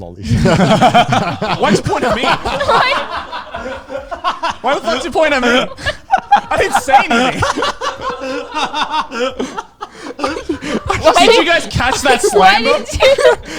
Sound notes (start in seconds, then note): 0.1 all laughing; 3.7 all laughing; 6.7 all laughing